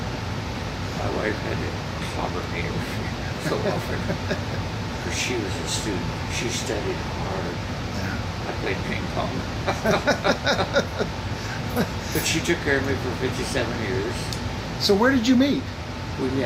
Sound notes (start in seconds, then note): 3.2 laughs; 9.4 laughs